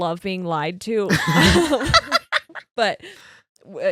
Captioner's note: laughing